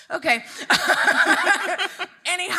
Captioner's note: all laughing